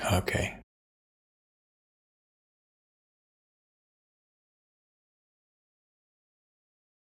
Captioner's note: blank Audio